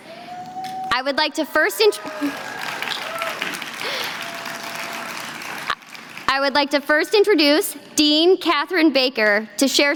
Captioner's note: applause